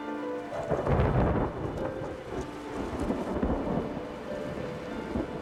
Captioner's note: somber music; thunder rumbling